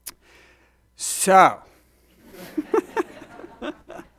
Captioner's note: laughs